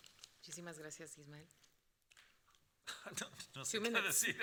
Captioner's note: moderator speaking Spanish